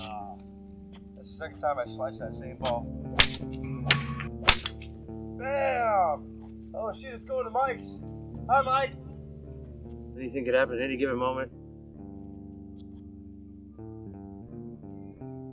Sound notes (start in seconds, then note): 3.1 golf balls clinking; 12.1 mellow guitar music